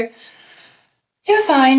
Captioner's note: takes deep breath